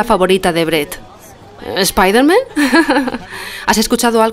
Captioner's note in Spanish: risas